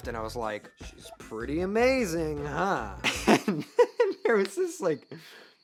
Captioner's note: laughing